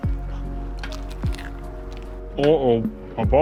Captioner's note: King's Cake crunches